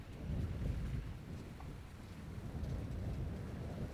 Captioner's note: wind